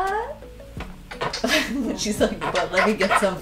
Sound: lips smacking

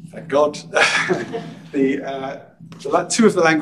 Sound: he chuckles

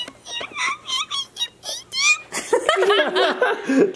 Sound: mouse impersonation sounds; all laughing

